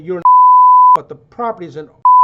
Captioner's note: beep